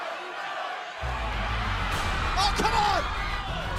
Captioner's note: crowd chatter